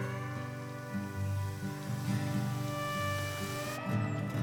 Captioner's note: hose hissing